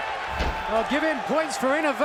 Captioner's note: fans cheering